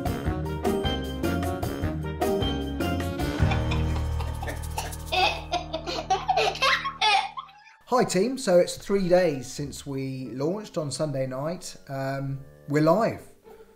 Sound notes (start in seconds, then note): 0.3 jaunty music plays; 3.4 girls chuckling